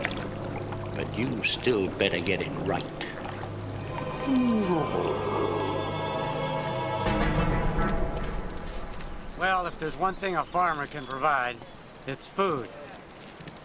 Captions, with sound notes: But you still better get it right. (grumbling) (birds chirping) - Well, if there's one thing a farmer can provide, it's food.